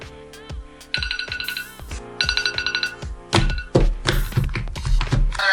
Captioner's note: alarm continues ringing